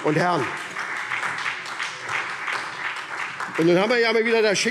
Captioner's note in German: Beifall SPD